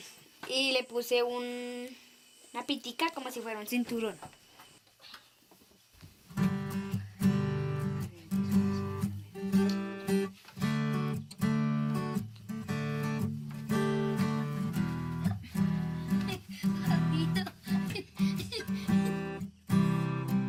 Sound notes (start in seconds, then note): 12.9 cheerful guitar playing; 15.9 laughter